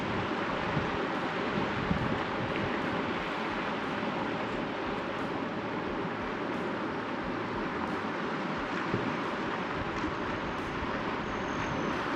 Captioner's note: wind blowing; upbeat music